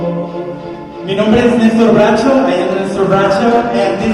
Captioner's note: speaking Spanish